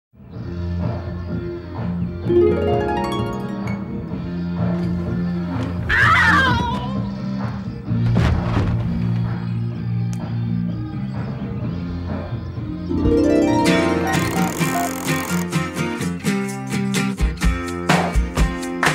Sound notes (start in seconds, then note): 2.3 harp trills brightly; 5.9 woman screams; 12.9 harp trills brightly